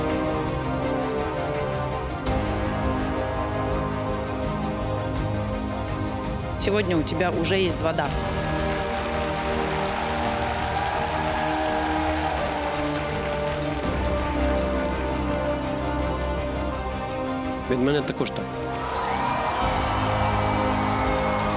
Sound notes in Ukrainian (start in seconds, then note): 10.4 оплески